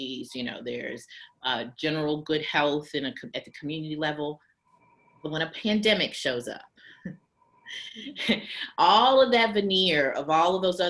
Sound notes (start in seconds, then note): 7.7 chuckles